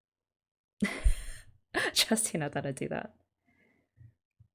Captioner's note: laughs